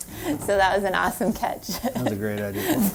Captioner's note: laughs